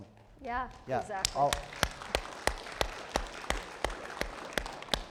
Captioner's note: all applauding